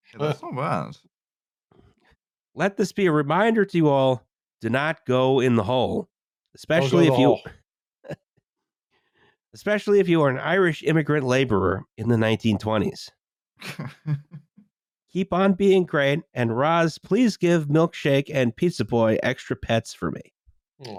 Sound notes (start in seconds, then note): 6.8 small chuckle; 13.6 laughs